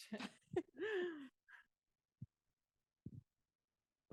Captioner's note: laughs